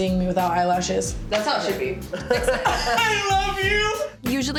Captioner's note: laughs